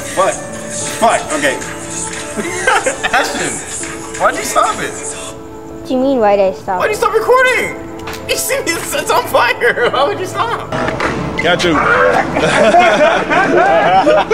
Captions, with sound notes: Fuck. Fuck, okay. (laughs) Ashton. Why'd you stop it? What do you mean why did I stop? Why do you stop recording? You see it's on fire. Why would you stop? Catch him. (laughs)